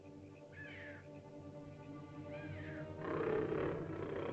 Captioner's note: ominous music; animal squawks; ominous music; large animal growls